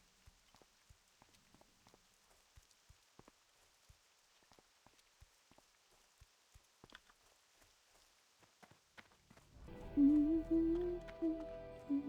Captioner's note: hums